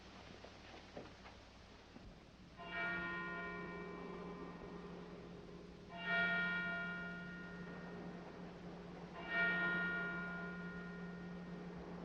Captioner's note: bells ring ten times